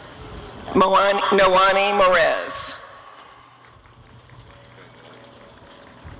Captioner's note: applause